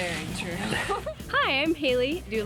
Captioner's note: laughs